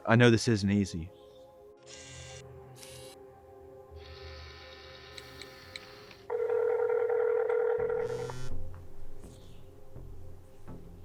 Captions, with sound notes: I know this isn't easy. (camera zooming) (phone ringing) (phone buzzes)